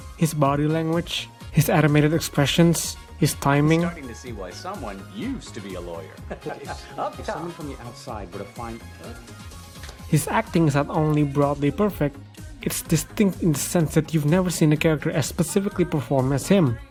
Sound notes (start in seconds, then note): 6.1 laughs